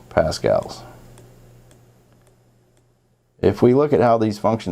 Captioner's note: mouse clicking